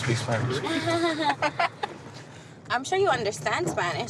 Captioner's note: laughs